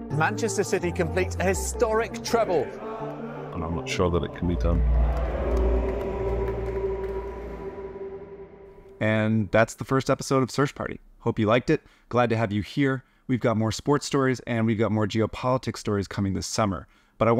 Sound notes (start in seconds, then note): 4.2 fans chanting